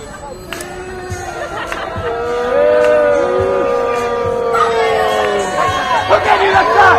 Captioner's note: audience boos